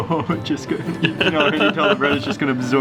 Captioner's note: laughing